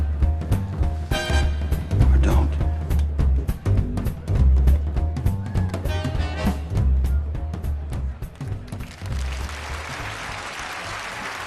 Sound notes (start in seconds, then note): 8.6 audience applauding